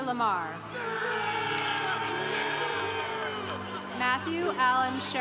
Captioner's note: congregation cheering